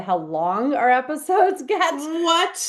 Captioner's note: laughs